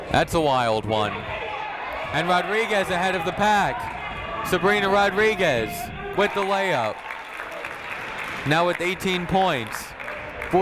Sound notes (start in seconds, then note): 6.1 crowd clapping